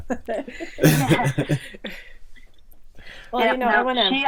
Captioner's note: laughing